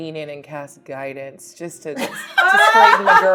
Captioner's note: laughing